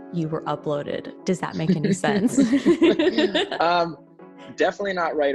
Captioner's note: chuckling